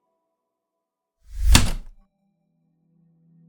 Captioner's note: typewriter click